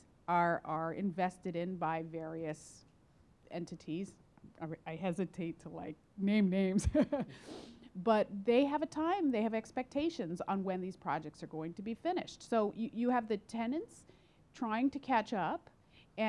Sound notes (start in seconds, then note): 6.8 chuckles